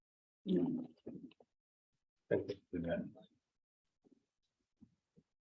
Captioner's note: members chattering